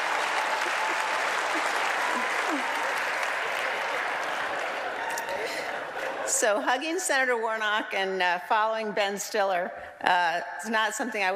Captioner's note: laughter